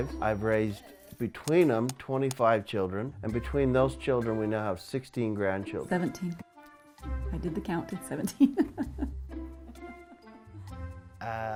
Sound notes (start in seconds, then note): 9.5 laughing